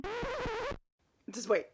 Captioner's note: record needle scratching